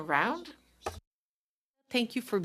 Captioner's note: speaking in French